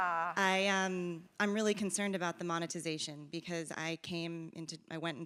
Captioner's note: laugh